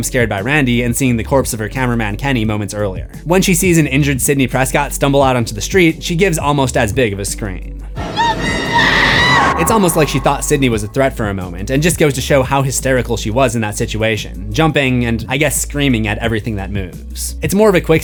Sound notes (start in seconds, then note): 8.0 screams